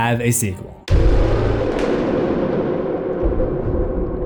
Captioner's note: thunder